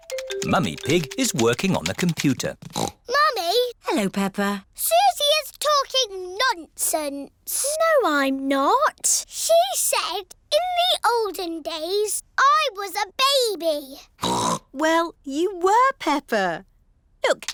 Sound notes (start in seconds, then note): 2.6 snorts; 14.2 snorts